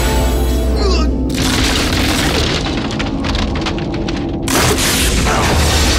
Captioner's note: music chord; wood splintering